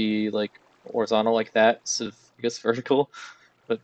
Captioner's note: laughs